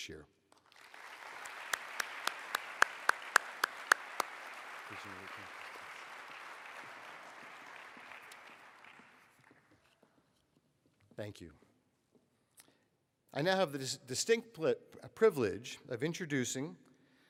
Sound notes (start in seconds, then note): 5.9 applause